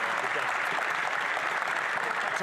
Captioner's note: some Applause